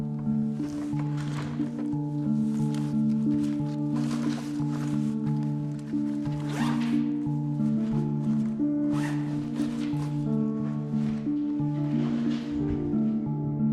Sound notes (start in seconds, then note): 4.3 bag rustling; 6.8 zipper buzzing; 9.4 light dramatic music continues